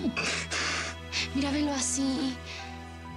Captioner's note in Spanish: sollozos